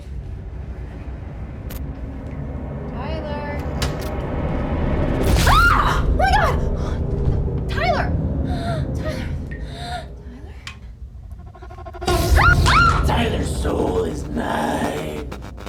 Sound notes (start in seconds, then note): 0.1 tense ominous music; 5.4 screams; 8.4 gasps; 11.3 spine-tingling music; 12.3 Kira screams